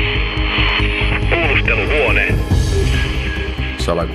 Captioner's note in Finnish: Radiopuhelimen rätinää, voimistuvaa jännittävää tunnusmusiikkia; Radiopuhelimesta